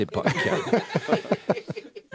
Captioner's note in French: rires